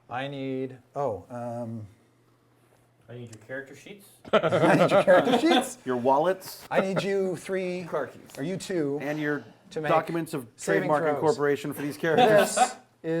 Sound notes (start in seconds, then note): 4.2 laughter